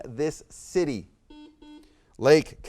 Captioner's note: buzzer beeps beeps